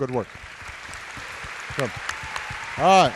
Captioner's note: applause